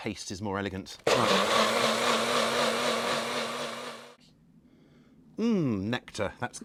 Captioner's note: blender whizzes